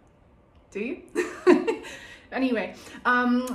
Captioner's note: laughs